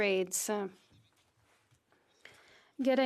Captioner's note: speaking French